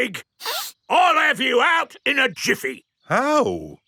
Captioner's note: sniffs